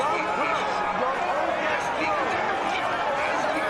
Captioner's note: man over speakers